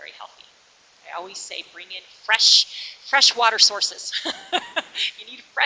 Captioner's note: laughs